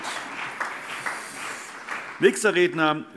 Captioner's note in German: Beifall